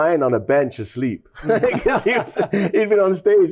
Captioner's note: laughs